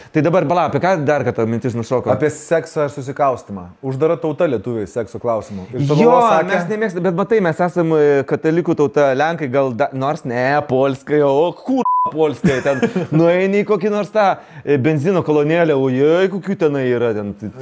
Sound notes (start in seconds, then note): 11.5 speaks polish